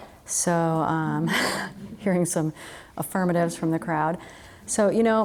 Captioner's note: laughs